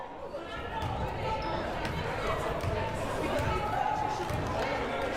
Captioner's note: crowd murmuring